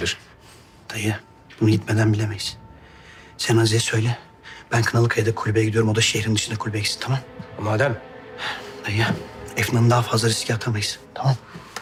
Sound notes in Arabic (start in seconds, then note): 0.3 تنهد; 2.7 تنهدات